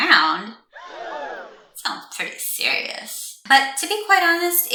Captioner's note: crowd gasp